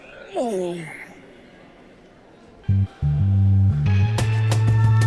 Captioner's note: yawns; snores